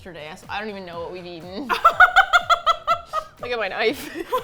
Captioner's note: laughs